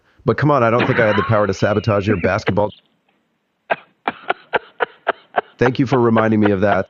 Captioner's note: laughs